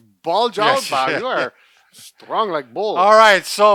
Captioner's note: laughs